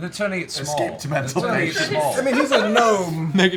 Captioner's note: laughs